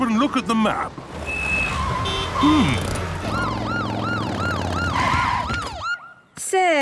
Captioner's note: honking, sirens